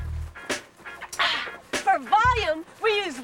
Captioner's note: sighs